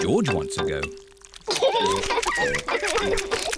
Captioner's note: both laugh; laughs and oinks